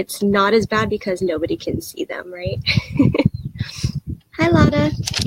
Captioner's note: laughs